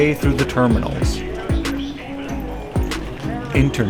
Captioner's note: ambient airport sounds